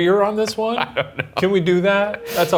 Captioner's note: laughs